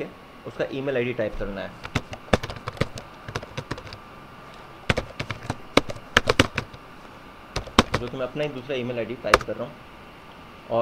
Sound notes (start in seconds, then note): 1.8 sound keyboard